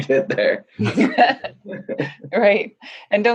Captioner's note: laughing; laughs